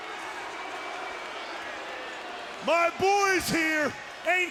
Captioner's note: crowd boos